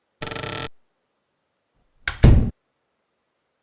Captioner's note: door slamming